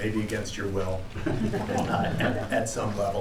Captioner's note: laughter